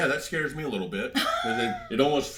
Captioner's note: laughs